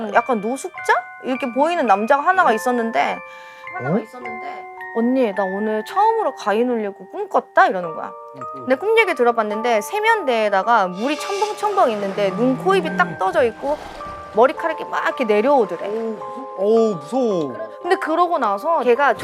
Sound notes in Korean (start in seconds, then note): none